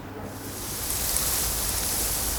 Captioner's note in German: Raschelnde Laute